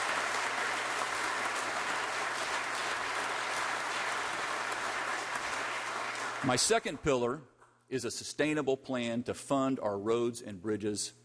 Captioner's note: applause